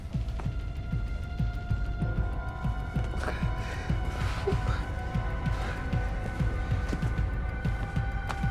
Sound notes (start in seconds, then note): 4.2 whimpering